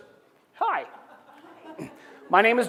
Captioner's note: laughter